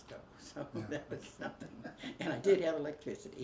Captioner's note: both laugh